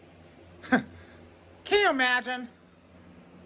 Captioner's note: laughs